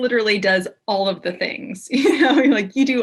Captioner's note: chuckles